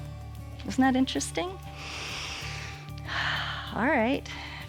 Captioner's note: inhales and exhales